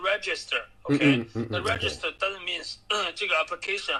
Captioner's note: clears throat and prepares to show English